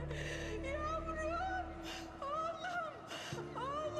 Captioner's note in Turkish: Kadın ağlama sesi